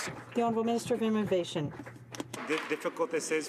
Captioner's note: some Applause